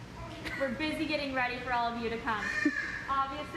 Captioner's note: bird squawk